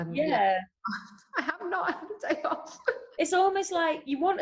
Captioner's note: chuckles